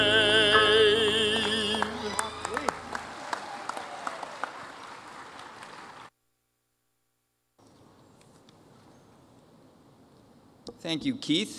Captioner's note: cheers and applause